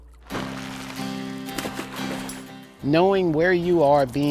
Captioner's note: net stretches; water splashes